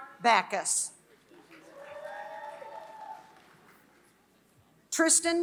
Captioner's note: applause